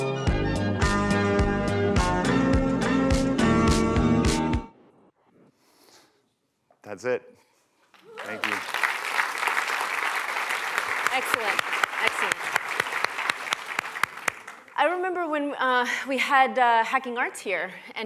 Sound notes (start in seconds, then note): 11.2 applause